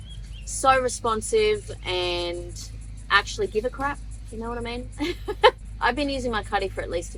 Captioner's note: laughs